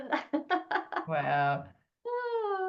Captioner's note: laughs